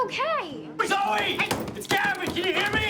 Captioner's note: pounding